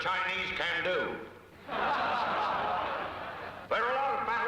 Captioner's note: crowd laughing